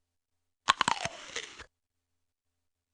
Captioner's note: Garrett crunches an apple